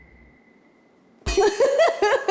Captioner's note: laughs